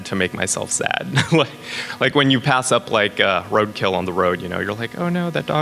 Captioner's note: laughs